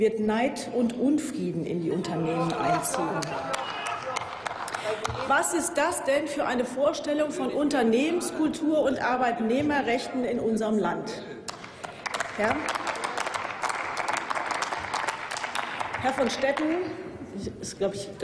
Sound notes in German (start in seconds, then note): 11.5 Applaus